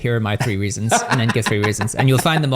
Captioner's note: laughs